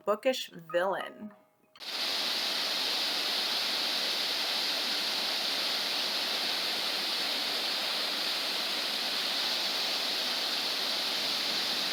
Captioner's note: waterfall noise